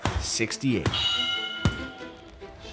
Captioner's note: bell rings